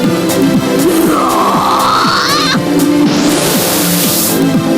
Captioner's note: roaring